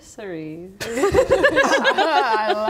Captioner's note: unsure laughter